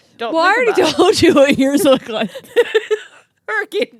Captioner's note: laughing; laughs